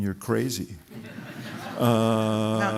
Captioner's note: laughter